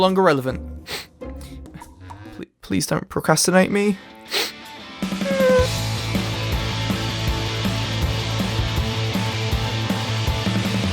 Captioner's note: sniff